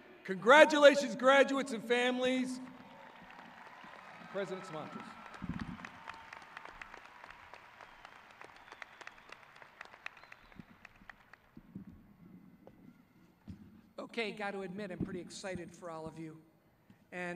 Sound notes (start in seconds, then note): 3.0 crowd cheering